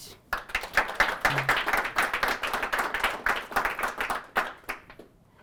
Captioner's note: audience clapping